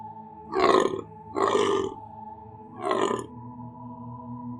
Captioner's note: animal croaking